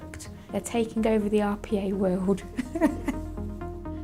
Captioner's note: chuckles